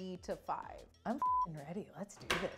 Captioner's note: beep